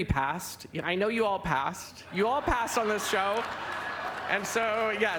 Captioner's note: laughter